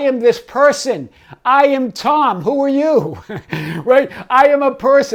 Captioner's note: chuckles